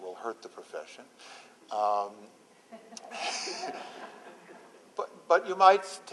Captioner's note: laughter